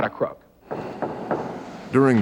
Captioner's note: gravel thud